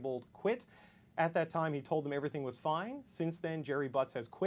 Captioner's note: none